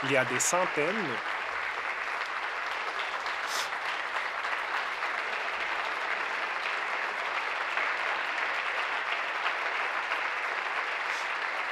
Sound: applause

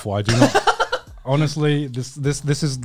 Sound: laughing

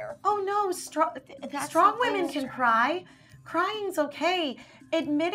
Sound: none

